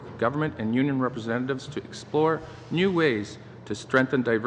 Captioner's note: speaking english